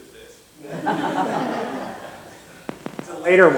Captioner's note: laughter